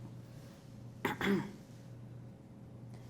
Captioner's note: clears throat